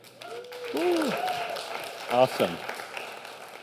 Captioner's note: applause